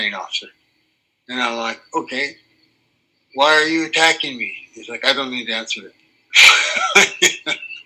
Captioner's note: laughs